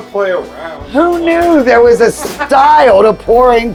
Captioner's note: laughs